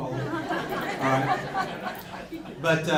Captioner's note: crowd laughs